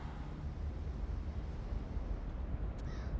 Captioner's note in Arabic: الرياح والطيور